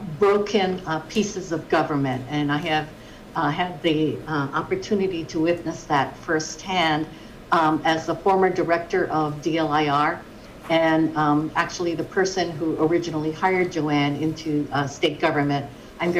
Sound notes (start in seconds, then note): none